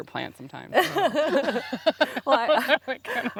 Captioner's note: both laughing